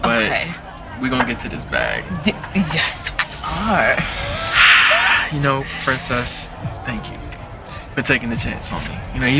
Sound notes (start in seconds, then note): 2.1 glasses clinking; 2.9 sighing